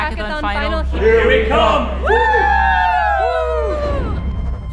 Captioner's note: cheers